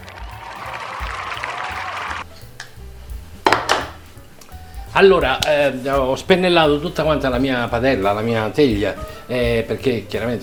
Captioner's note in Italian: Applauso